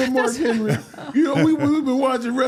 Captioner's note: host and guest laugh